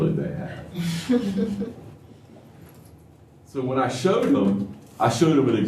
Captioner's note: laughter